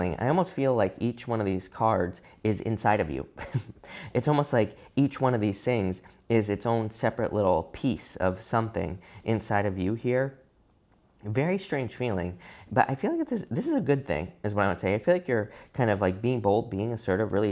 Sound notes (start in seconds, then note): 3.4 chuckles